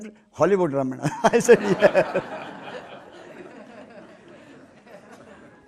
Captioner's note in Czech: smích